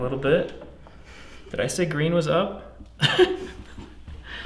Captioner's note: laughing